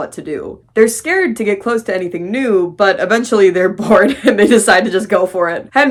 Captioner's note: laughing